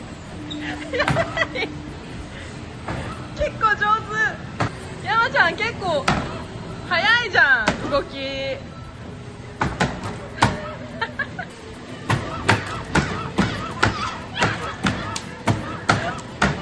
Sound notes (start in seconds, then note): 4.8 laughs